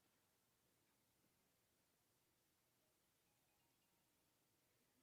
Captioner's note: none